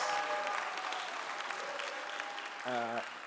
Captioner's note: clapping